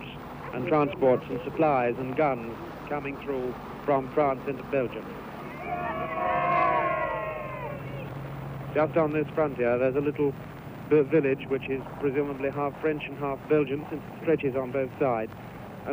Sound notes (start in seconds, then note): 5.4 crowd cheers